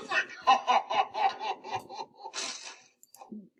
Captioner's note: deep laughter